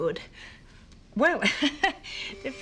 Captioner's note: laughs